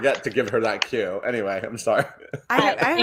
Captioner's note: clapping